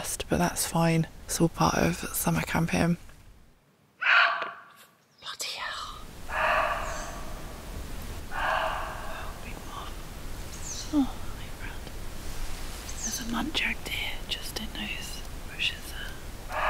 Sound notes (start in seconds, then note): 4.0 muntjac barking; 6.4 muntjac barking; 10.3 cute squeaky bird; 12.6 cute squeaky bird